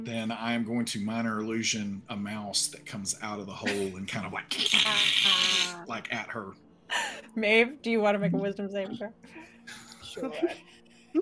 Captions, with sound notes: - then I'm going to minor illusion a mouse that comes out of the hole and kind of like, (hisses) like at her. - Maeve, do you wanna make a wisdom save first? - Sure.